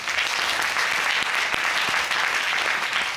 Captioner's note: audience applauding